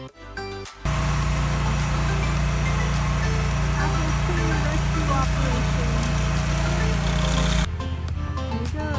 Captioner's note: machine rumbling